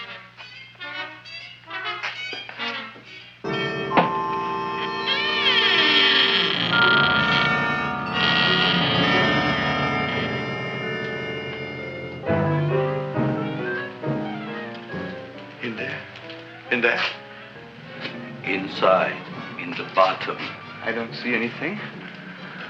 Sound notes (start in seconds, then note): 0.1 anticipatory music; 4.9 Audrey Jr. creaking